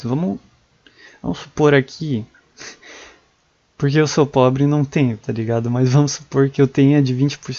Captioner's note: laugh